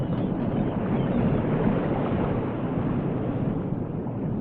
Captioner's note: ocean waves rumbling